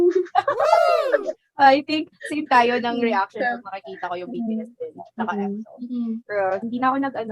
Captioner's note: chuckles